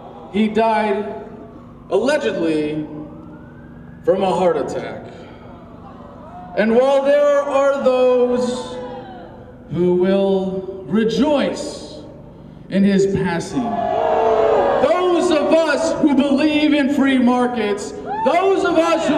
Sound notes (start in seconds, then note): 13.6 booing